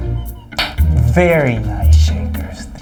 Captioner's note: clicks tongue